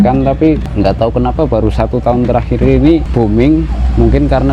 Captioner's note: bomming